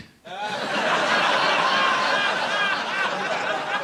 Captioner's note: audience laughing